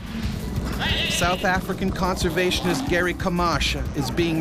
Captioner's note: voiceover